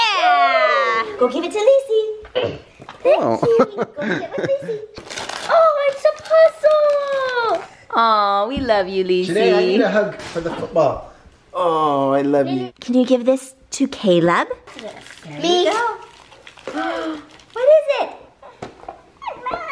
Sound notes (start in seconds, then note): 3.2 laughing; 16.7 gasp